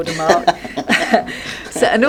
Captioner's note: both laugh